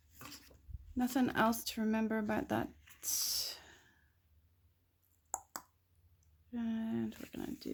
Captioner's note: mouth clicks